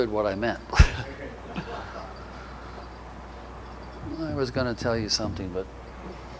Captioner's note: audience laughter